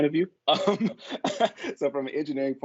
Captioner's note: laughs